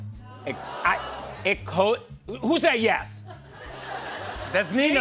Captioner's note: laughter